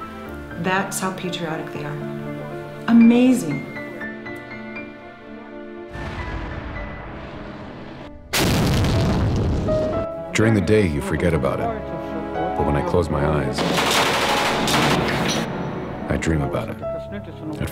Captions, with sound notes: That's how patriotic they are. Amazing! [Tank Blast] During the day, you forget about it. But when I close my eyes... [rapid gunshots] I dream about it.